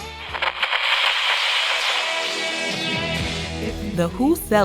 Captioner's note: radio crackles; rock music plays